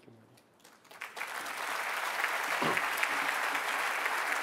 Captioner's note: applause